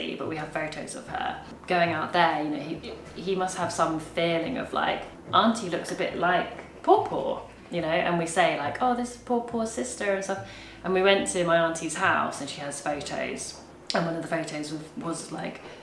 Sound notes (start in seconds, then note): 6.2 speaks a foreign language; 9.3 speaks a foreign language